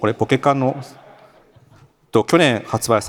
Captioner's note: laughter